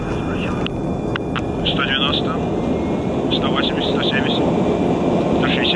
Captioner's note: aeroplane engine roaring